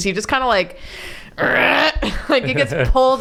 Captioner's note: grunt